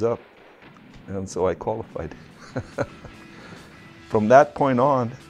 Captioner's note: laughs